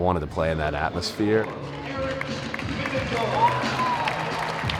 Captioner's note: crowd cheering